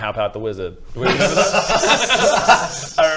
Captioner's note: foolish laughter